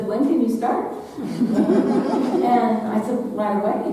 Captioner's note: audience laughing